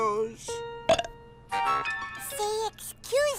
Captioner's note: burps